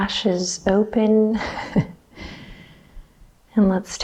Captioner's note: chuckles